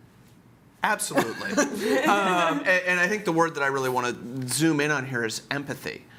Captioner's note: laughter